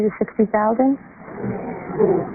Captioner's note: murmurs